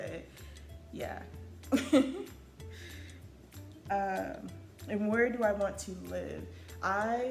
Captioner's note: laughs